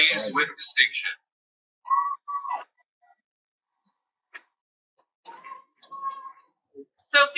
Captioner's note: cheering